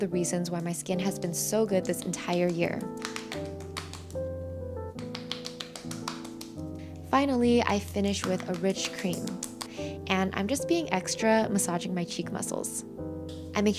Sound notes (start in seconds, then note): 2.9 gentle music; 2.9 hands smacking